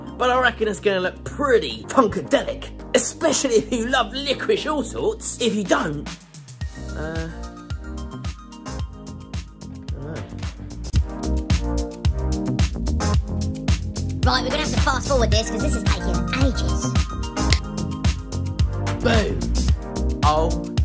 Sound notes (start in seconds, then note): 10.9 cheerful music continues; 17.4 fingers snapping